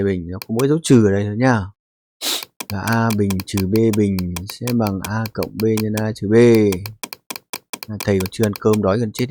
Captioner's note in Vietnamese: khịt mũi